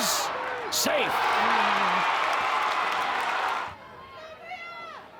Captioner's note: crowd cheers